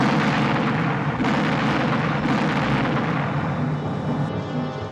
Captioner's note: rapid cannon fire